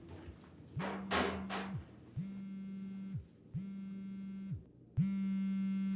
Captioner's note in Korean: 폰 진동소리